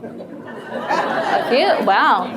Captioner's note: audience laughs